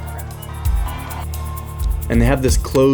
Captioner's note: crowd cheering